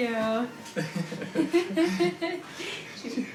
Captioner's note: both laugh